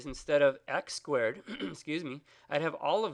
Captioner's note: clears throat